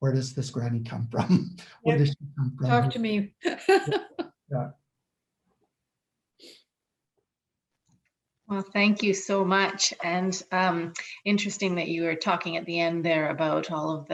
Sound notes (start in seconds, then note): 1.1 laughs; 6.3 laughs